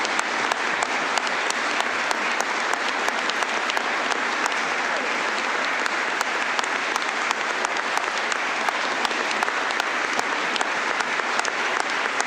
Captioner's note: applause